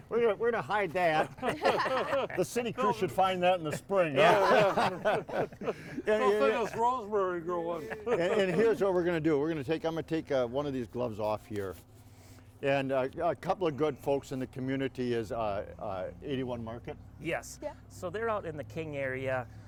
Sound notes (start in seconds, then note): 1.0 everyone laughing